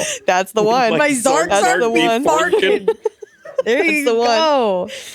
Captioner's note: all laughing